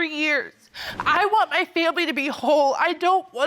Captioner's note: tearfully